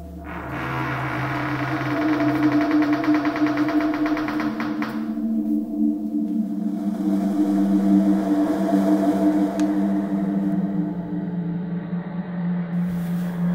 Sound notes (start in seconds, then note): 0.2 door creaks loudly; 4.7 ghostly wind blowing